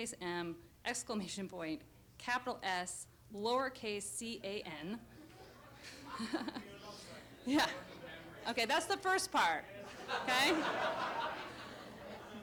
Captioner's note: audience laughter